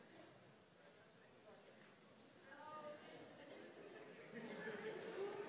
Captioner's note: audience murmuring